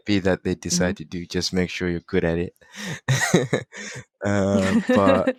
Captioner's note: laughing